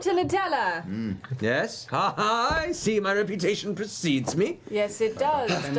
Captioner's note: laughs